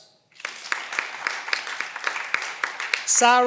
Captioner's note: cheering